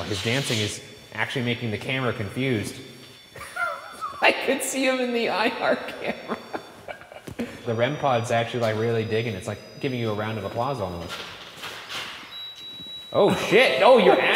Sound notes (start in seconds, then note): 3.4 laughing; 12.5 REM-Pod beeping; 13.2 laughing